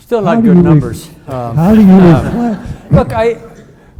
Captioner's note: audience laughs